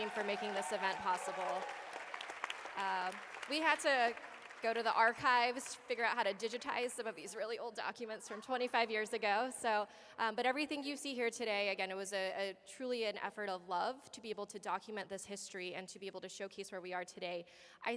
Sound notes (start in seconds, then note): 2.1 applause